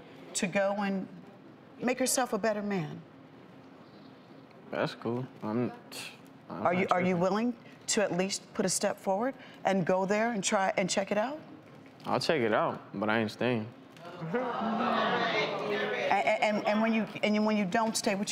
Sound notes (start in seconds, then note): 5.5 mumbles; 14.0 audience groans